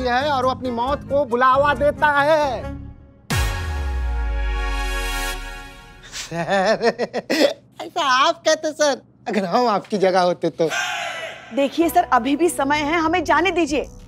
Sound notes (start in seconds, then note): 2.7 tense music plays; 6.2 laughs